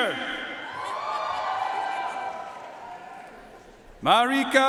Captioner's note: audience cheering and applauding